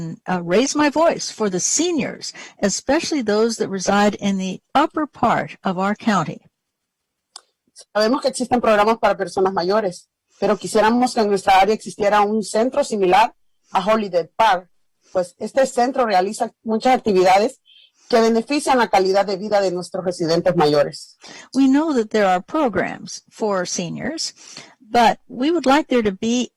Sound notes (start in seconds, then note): 11.4 speaking spanish